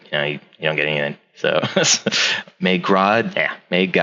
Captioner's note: laughs